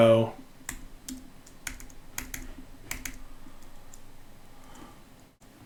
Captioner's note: keyboard clicking